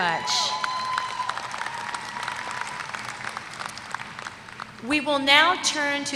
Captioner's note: applause